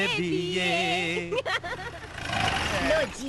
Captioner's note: laughing